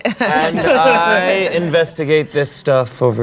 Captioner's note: laughing